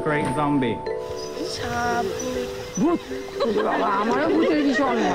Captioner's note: man speaking native language